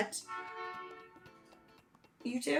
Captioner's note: honking